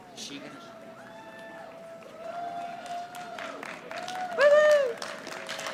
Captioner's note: audience applauding